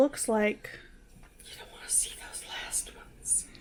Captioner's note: whispers